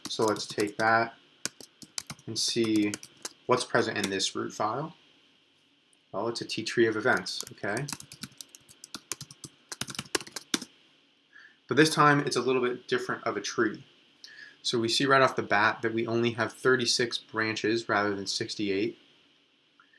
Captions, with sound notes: So let's take that and see what's present in this root file. Oh it's a TTree of events, okay. (keyboard clicks) But this time, it's a little bit different of a tree. So we see right off the bat that we only have 36 branches, rather than 68.